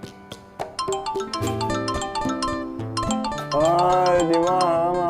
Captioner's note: incoming call